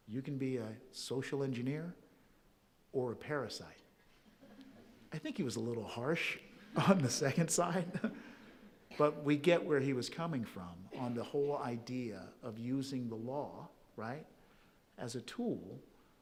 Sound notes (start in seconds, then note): 4.0 audience chuckling softly; 7.7 chuckles